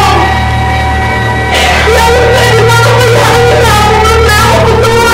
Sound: cries

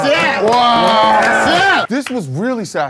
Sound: sound of clapping

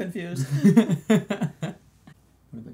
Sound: laughs

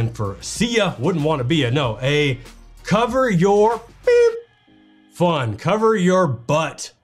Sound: beep

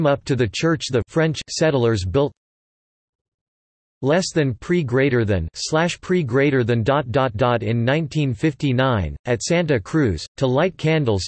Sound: French

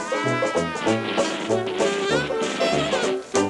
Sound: static buzzing

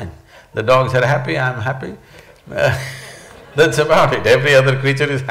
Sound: laughs

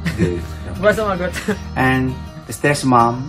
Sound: laughs

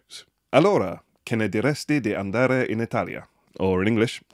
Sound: speaking in Italian

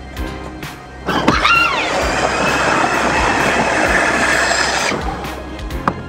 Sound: evil assistant screams

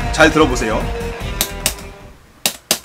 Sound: tap-Tap

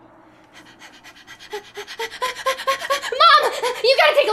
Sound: Candace panting

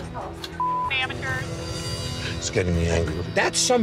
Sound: beep

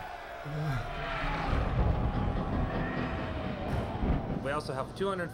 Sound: moans; thunder rumbles

